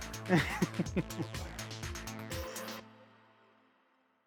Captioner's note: laughing